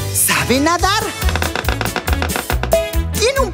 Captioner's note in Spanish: Sonido de pájaro carpintero